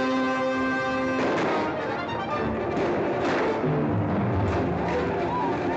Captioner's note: dramatic music; gunshots; Comanche battle cries